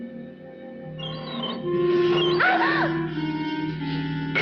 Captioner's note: rat squeaking